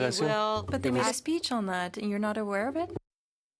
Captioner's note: speaking French